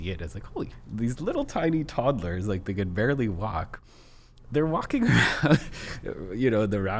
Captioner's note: laughs